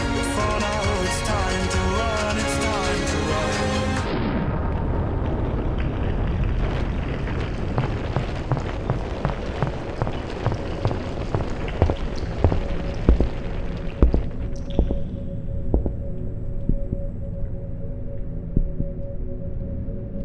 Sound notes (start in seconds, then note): 3.8 bell tolls, the music stops, we hear the sound of a rocky cave-in; 7.6 cave-in noises + rapid loud heartbeat; 13.5 cave-in noises fade, heartbeat slows down and repeats steadily; 20.0 eerie ambient noise as heartbeats continue